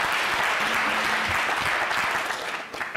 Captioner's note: applause